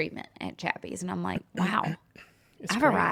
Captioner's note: clears throat